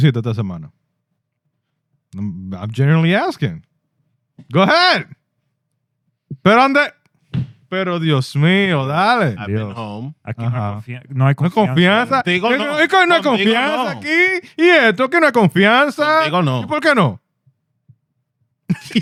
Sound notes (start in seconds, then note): 0.7 speaking In Foreign Language; 6.9 speaking In Foreign Language; 11.6 laughing; 12.5 speaking In Foreign Language